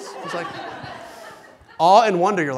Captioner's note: laughing